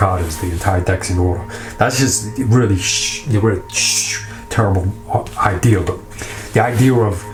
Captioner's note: shushes